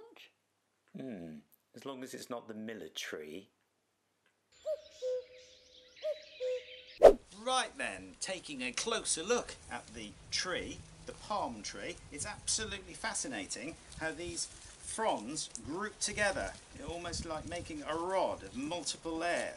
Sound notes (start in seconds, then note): 7.0 swipe